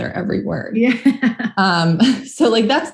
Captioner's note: laughs